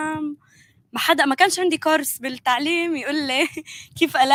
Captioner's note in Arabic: لغة أجنبية